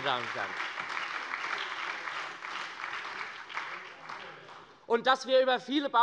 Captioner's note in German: Beifall bei der SPD und der FDP